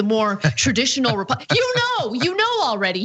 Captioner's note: laugh